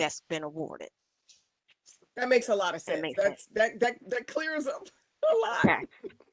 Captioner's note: laughter